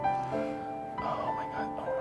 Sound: sighs

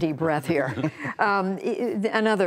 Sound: laughter

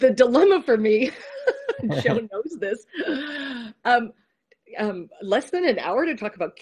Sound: laughs

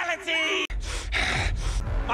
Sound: heavy breathing ensues

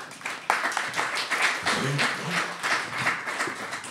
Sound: applause

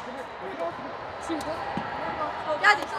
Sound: cheering

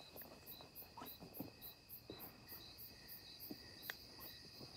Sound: footsteps

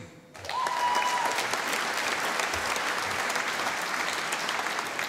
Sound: audience applauding

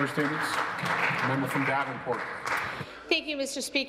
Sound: some Applause

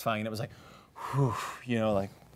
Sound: exhales

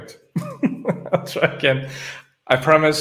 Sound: laughs

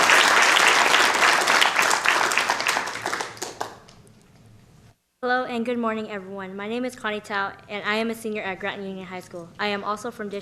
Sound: applause

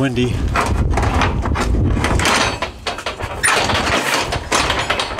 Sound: metallic clanging

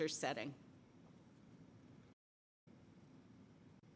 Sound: silence

